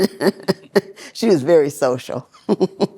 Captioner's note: giggles